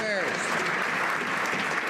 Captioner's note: some Applause